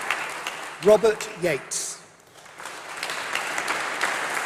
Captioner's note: applause